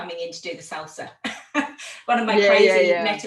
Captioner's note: laughing